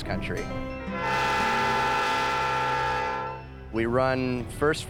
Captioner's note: train whistle blows